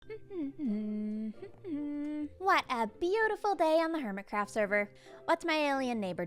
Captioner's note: humming